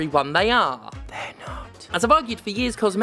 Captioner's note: whispered - They're not!